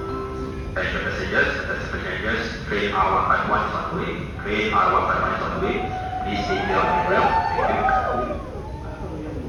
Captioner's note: people cheering